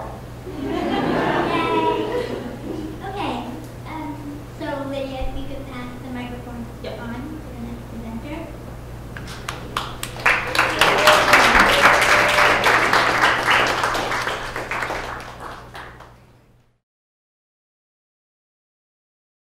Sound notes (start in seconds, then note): 0.5 laughing; 9.2 audience applauding